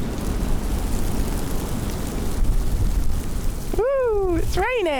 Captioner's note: wind & rain